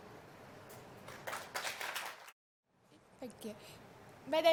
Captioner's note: audience applauds